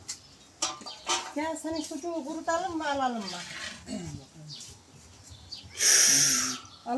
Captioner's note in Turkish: Boğazını temizler